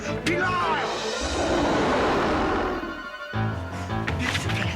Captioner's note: Scarface roars; intense music